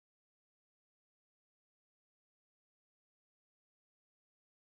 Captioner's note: none